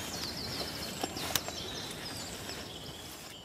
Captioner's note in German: Vogelzwitschern